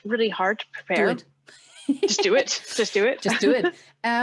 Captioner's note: laughs